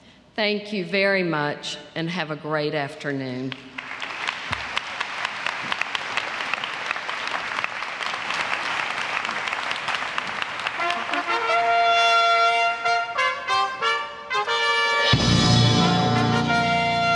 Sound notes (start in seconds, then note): 3.5 applause